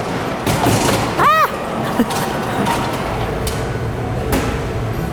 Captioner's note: squeals and chuckles